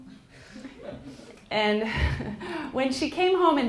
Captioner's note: laughs